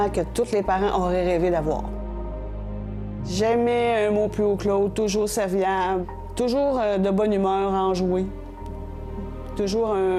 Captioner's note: speaking in French